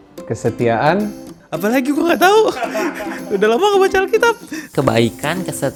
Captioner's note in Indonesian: Tertawa